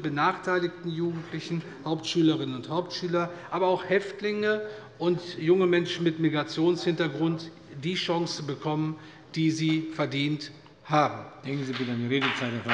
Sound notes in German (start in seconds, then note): 11.6 Beifall bei der CDU und dem BÜNDNIS 90/DIE GRÜNEN